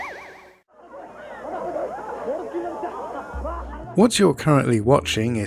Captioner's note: TV Noise